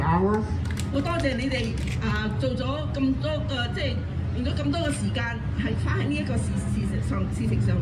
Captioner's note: speaking foreign language